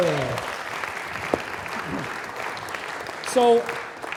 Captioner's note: applause